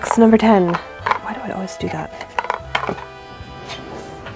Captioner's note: whispers